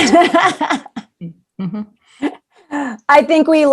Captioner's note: laughing